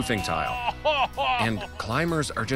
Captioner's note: yells